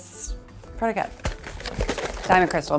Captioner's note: box rustles